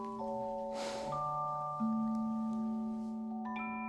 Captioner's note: sigh